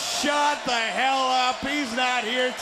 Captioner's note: crowd cheering